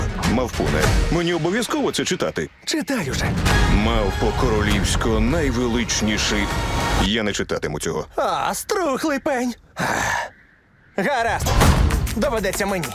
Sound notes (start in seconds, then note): 9.7 sighs